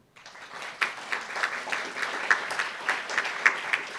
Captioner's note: applauds